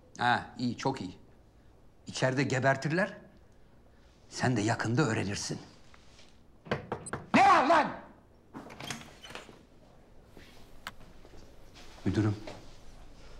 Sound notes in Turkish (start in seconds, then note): 6.6 Kapı vurma sesi; 8.5 Kapı açılma sesi